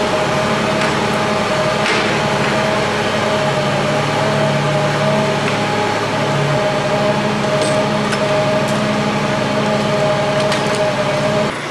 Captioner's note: shop truck running